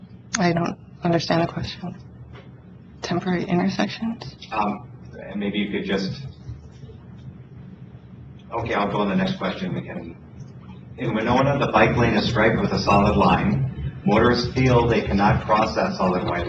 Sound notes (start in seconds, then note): 5.9 moderator speaking in background